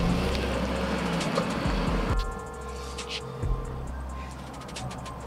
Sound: phone ringing

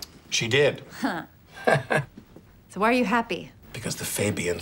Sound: chuckles

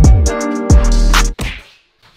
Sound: smack

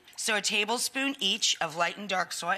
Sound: none

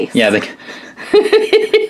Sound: laughing

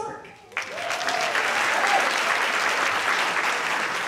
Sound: audience clapping

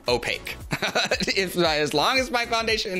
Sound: giggles

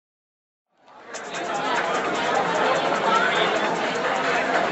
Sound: crowd chattering

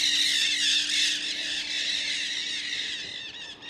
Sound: parrots flyover screeching

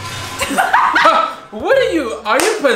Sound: laughs

